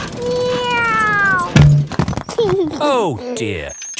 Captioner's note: george imitates airplane; george giggles